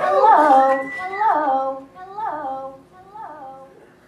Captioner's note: the "Hello" echoes